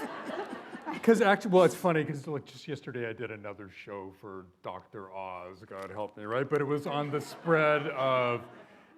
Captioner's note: laughter